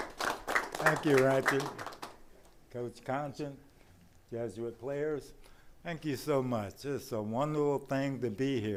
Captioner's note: applause